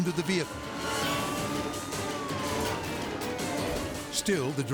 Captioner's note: intense music; siren blares